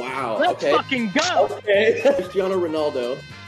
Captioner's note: beep